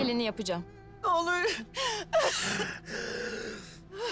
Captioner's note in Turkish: Nefes sesi; Ağlama sesi